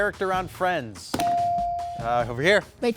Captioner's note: buzzer dinging